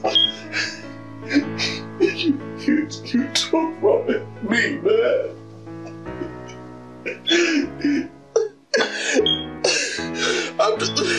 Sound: Tommy weeps

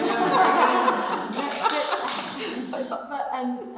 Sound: everyone laughs

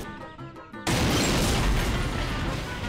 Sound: booming

